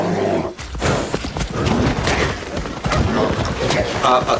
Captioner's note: bear grunting; feet clopping